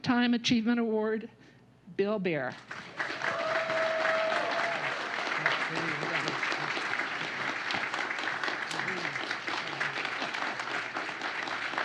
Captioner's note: applause